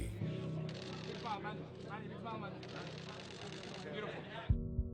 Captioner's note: journalists chattering